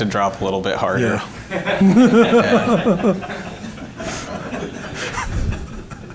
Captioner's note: audience laughing